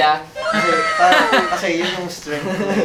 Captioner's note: giggles